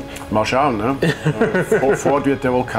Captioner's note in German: lacht